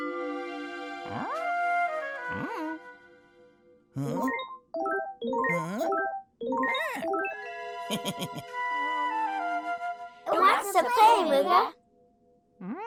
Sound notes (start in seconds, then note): 0.2 cheerful music; 5.5 electronics warbling; 7.9 laughs